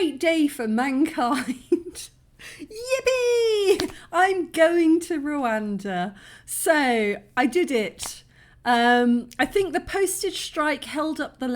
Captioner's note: laughing